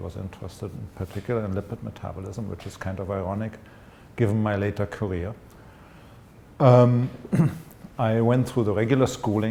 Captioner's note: clears throat